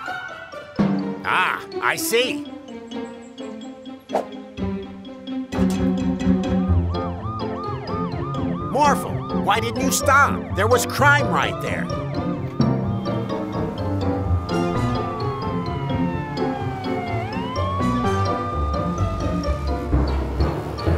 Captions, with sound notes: Ah, I see. [siren wails] Morphle, why didn't you stop? There was crime right there. [siren wailing] [upbeat music]